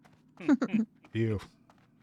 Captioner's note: laughs